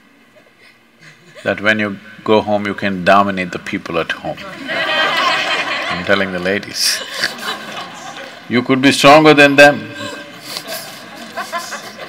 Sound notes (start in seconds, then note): 4.4 laughter; 10.0 laughter